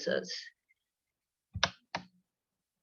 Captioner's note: keyboard sound